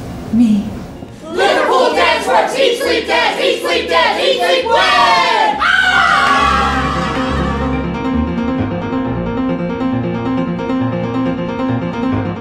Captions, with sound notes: me LIVERPOOL DANCE WORKS EAT SLEEP DANCE EAT SLEEP WIN! (Yells)